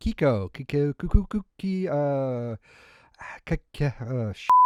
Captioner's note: stammering to remember previous pronunciation